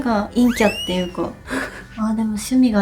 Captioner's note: laughs